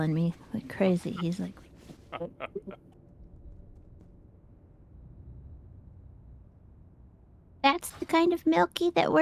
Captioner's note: laughing